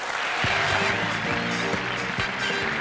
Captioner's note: applause; theme music